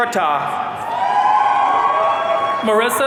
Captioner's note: audience cheering